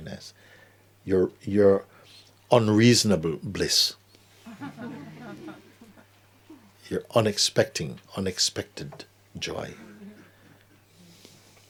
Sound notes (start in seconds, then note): 4.4 laughter